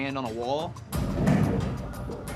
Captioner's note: muffled thudding